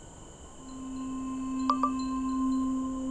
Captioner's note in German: Benachrichtigung ertönt